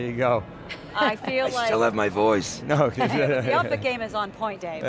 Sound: laughs

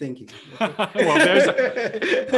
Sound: men laugh

